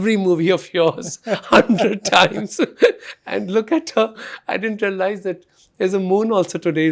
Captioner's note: both laughing